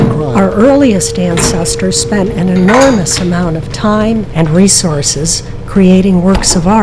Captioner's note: podcast Voice